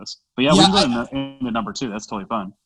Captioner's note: static